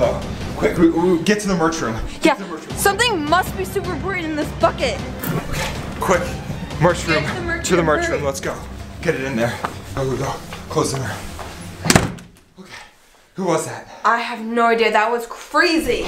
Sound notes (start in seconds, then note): 11.8 door clicks